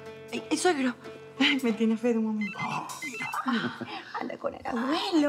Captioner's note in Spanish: Suena el celular